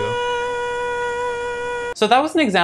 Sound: aaahhhh

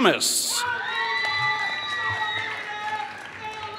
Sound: applause

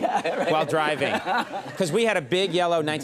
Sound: Ken laughing

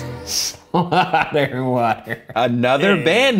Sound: laughing

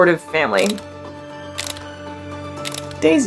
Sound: background music; camera clicking sound effects

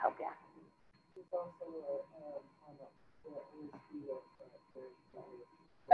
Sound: student speaking faintly

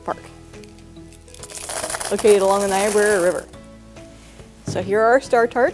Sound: candy rattles

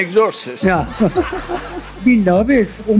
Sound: laughter

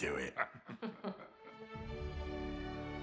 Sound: laughs

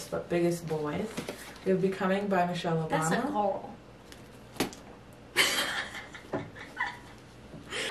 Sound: laughs

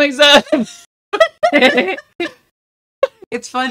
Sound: laughter

